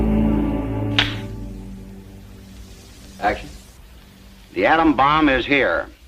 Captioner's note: slap